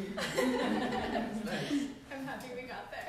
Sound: laughter

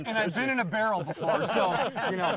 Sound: all laughing

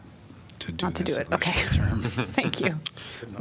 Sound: laughter

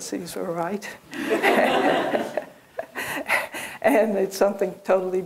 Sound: laughter

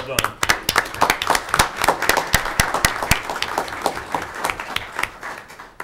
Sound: audience applauding

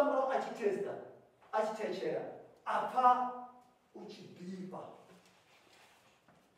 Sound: pastor speaking in native language

